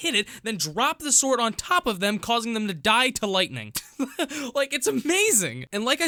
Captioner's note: laugh